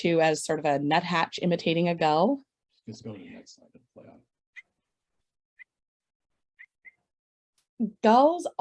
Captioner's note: gull call